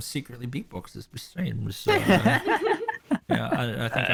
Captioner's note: all giggles